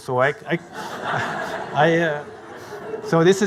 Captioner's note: audience laughing